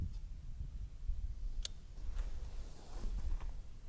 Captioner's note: clicks off safety